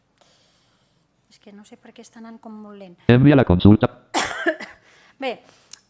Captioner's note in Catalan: veu del lector de pantalla